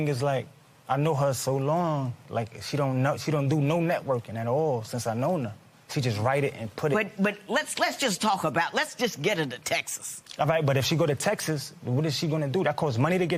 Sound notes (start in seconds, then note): none